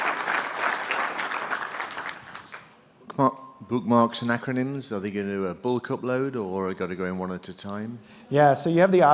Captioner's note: applause